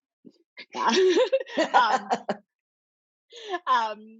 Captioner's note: laughs